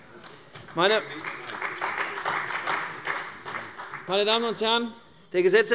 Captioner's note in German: Beifall bei der CDU und dem BÜNDNIS 90/DIE GRÜNEN